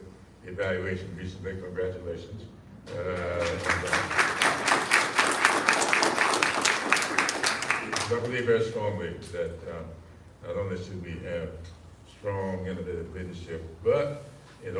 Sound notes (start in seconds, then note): 4.8 applause